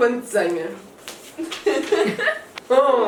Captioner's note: laughs